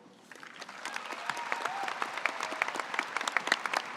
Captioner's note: audience applauds